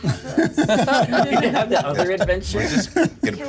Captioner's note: laughs